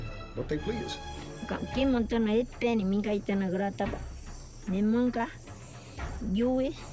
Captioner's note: speaking in foreign language